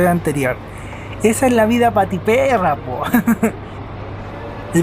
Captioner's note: laughs